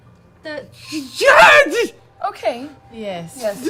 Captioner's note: terrified noise